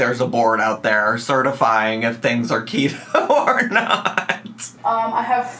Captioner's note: laughs